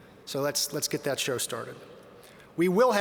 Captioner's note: none